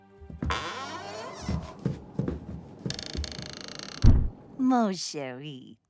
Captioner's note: soft music plays; door creaking